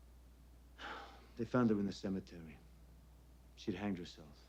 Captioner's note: sighs